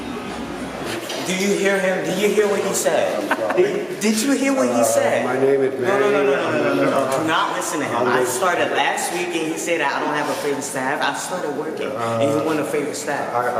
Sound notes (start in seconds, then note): 3.0 laughing